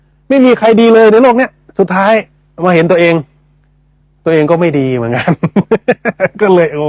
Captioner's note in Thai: เสียงหัวเราะ